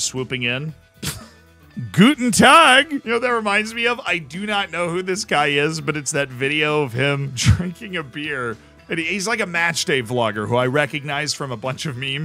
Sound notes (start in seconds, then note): 1.0 laughs